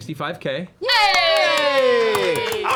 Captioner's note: cheering